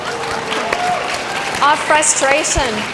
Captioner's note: audience clapping